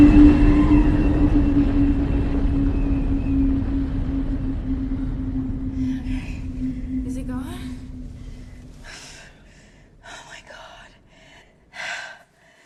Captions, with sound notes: [WIND SLOWS] OK. IS IT GONE? OH, MY GOD!